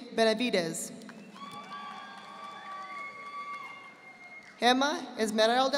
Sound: audience applauding

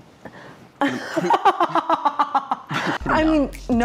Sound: laughing

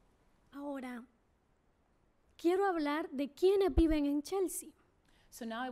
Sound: speaking spanish

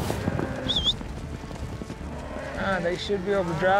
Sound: whistling, cows mooing

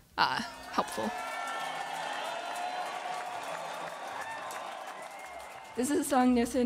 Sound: audience applauds and cheers

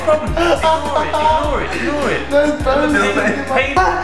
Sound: wincing

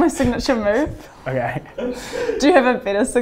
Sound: laughs

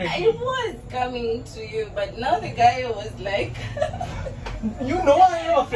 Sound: laughing

